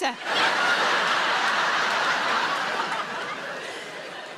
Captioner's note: audience laughing